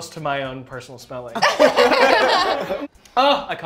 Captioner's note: laughter